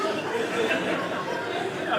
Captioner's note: audience laughing